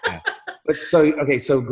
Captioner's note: laughs